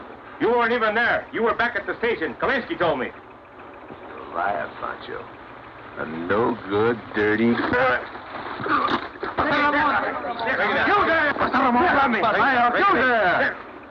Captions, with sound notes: - You weren't even there! You were back at the station. Kalinsky told me! - You're a liar, Pancho. A no-good, dirty- (Ramon grunts) - You there! You there!